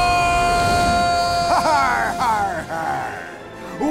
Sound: screams; laughing

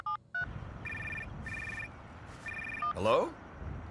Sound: phone beeping; phone ringing

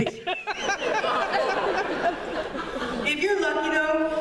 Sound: laughter

